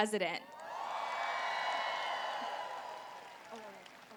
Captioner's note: applause